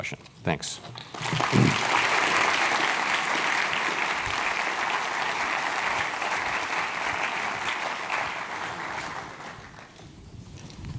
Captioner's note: applause